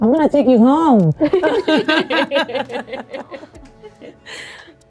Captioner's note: laughing